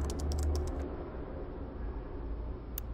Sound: none

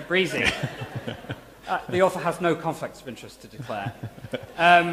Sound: laughter; laughter

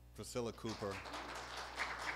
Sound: applause

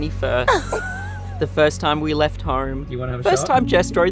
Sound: laughs

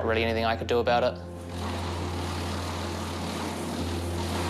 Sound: chipper whirrs

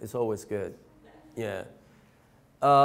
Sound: laughing

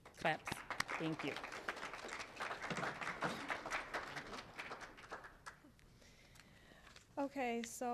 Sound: applause

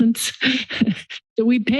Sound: giggle

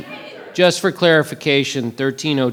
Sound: audience shouting

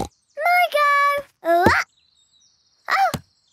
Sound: snorts

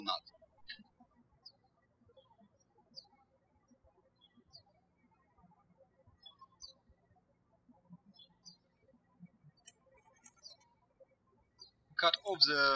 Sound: birds chirping

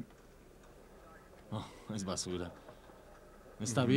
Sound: laughs

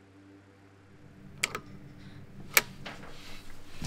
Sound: front door unlocks

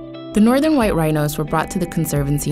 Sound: voiceover

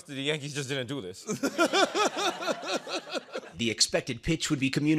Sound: laughter

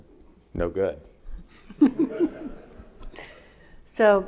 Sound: audience laughing

